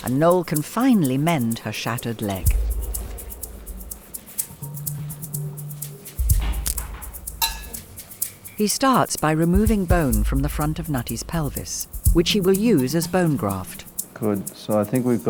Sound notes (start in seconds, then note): 7.4 metal clinks